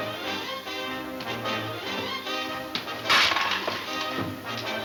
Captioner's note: clattering